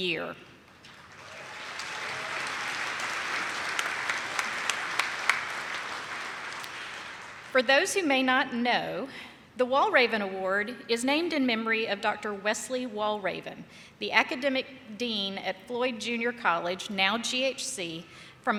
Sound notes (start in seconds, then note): 0.6 attendees clapping